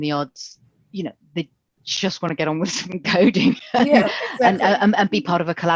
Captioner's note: both laugh